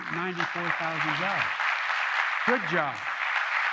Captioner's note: applause